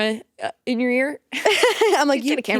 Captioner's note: both laughing